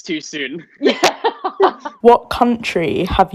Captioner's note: both Laughing